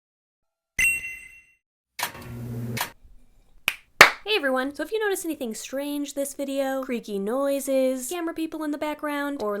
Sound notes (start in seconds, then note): 1.0 bell dings; 2.3 film camera starting; 3.6 hand claps